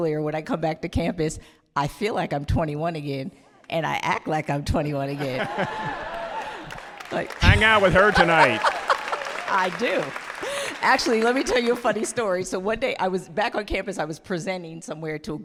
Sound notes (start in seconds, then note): 8.4 audience applauding